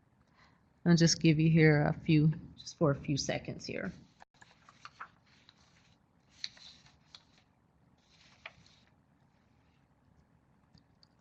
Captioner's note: silence while people are typing